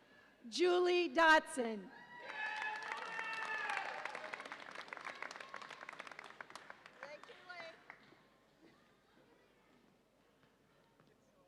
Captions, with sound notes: Julie Dodson. (audience applauds and cheers)